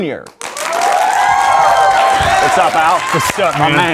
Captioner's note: audience cheering and clapping